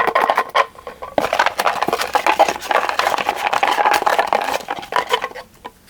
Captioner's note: rummaging sounds